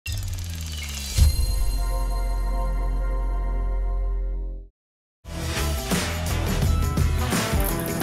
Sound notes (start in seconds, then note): 0.1 logo whirs; 1.1 bright music; 5.4 bluesy rock music